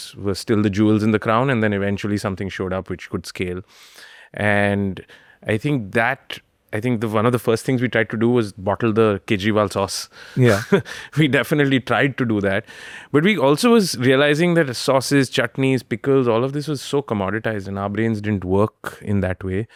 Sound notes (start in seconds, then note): 10.4 laughs